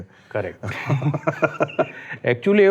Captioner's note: laughs